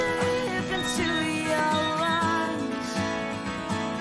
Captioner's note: cell phone beeps